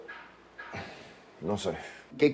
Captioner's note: sigh